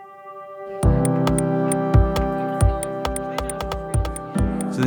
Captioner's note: students chattering